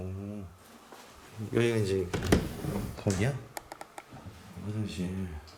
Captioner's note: the sound of opening the door